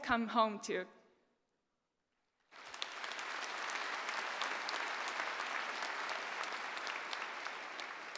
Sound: applause

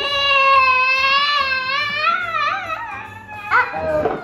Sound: fussing

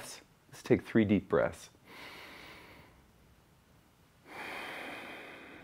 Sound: breathes deeply

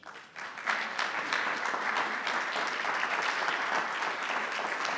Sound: audience applauding

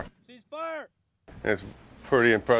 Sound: voiceover

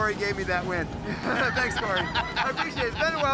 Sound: chuckles; laughs

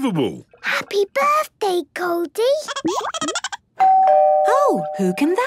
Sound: Goldie giggling; doorbell ringing

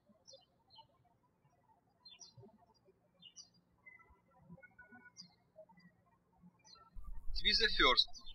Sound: birds chirping

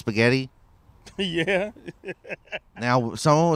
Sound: laughs

